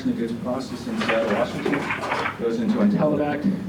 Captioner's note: static drowns out voice